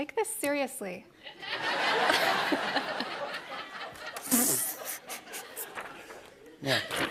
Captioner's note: laughter